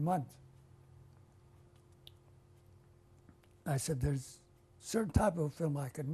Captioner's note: pauses for 3 seconds